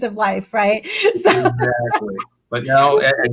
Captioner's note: laughing